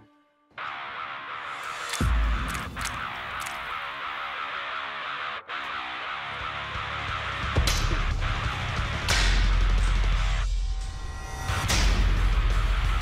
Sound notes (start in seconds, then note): 0.1 heavy metal music; 6.7 blade impact sounds